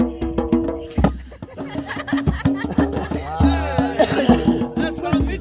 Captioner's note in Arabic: يضحك